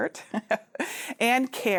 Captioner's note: chuckles